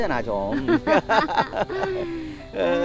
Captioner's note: both laughing